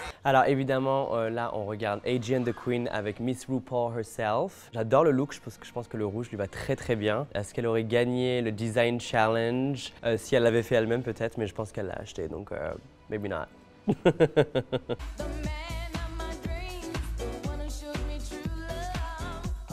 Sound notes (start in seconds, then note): 0.2 speaking French; 13.9 Nicky laughs